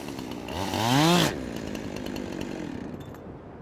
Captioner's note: shutting off chainsaw